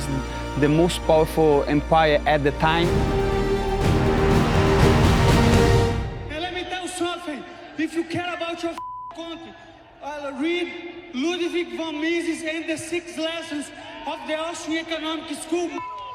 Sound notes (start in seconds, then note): 3.2 dramatic music; 9.2 beeping; 15.8 beeping